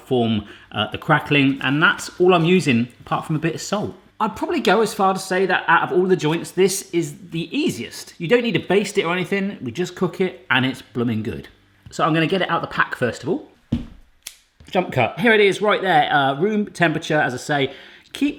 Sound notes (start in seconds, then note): 13.7 thud; 14.2 sharp snipping